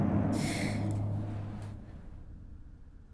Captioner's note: gasps